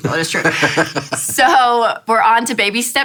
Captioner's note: laughs